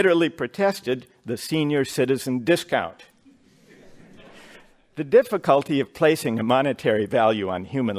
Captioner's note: laughter